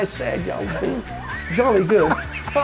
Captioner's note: laughing